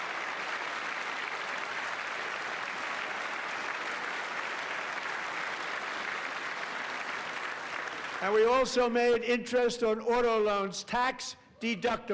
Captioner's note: applause